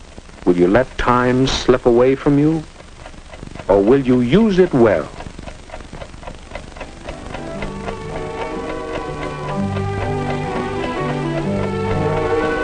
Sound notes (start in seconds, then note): 5.4 clock ticking